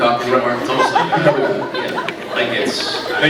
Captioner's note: scattered laughs